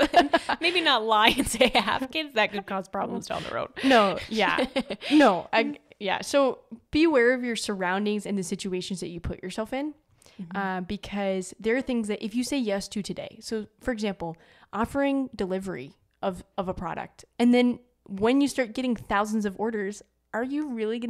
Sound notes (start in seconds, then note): 3.7 both laugh